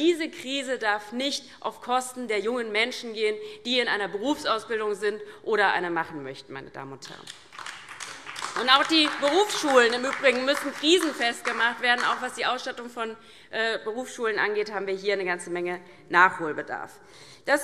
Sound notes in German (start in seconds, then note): 7.2 Beifall DIE LINKE